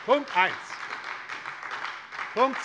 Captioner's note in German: Beifall bei der SPD